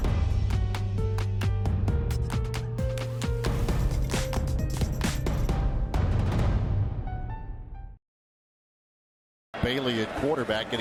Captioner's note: cheering